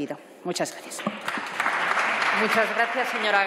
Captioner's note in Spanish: Aplausos